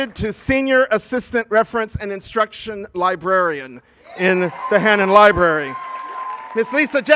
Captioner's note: cheers and applause